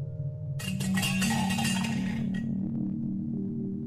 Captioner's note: clattering